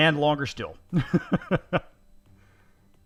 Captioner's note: laughing